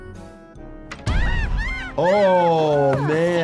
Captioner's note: ants screaming